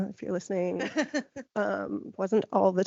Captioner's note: laughing